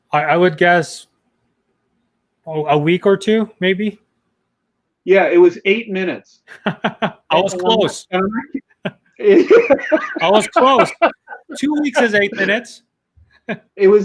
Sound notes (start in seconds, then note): 6.5 laughs